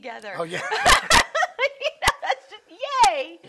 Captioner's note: laughing